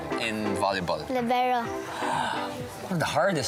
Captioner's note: gasps